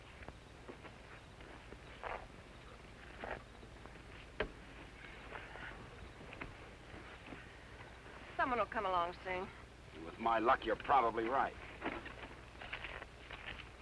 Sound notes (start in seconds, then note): none